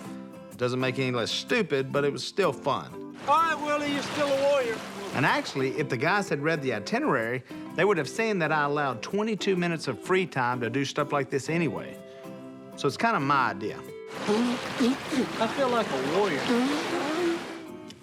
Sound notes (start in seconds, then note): 14.2 spitting